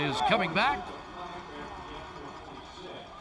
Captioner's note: whistle